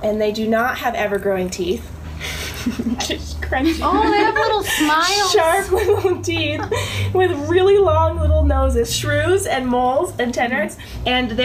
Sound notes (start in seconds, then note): 2.2 laughing